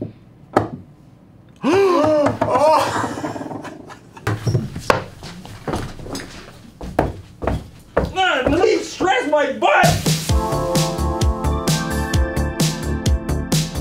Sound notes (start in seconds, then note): 1.6 gasps; 1.6 laughs; 4.4 rages; 9.8 intro music